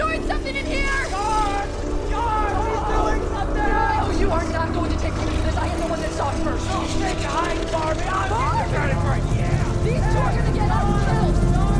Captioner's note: yelling